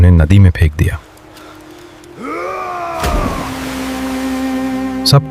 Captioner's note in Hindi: कराहने की आवाज़